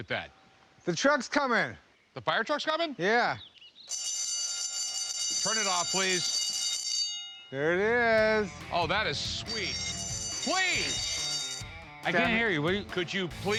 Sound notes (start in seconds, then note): 3.9 bell ringing; 9.4 bell ringing; 13.4 bell ringing